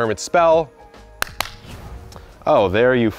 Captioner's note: hands clapping